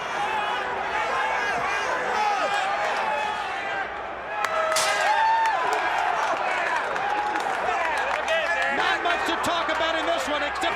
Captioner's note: crowd chatter